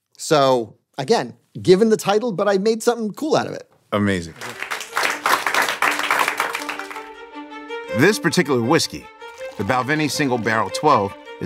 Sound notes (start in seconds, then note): 4.2 audience clapping; 6.5 string music